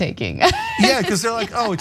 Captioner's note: laugh